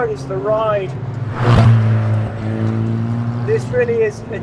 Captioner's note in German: Motor heult weiter auf